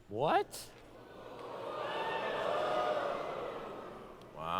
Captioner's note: audience ooo's